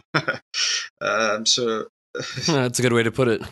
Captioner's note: laughs